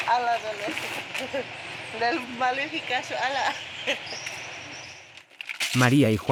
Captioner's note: speaking in foreign language